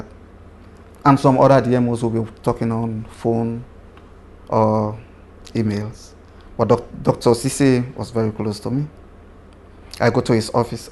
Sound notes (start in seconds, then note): none